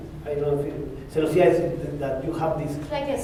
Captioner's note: spanish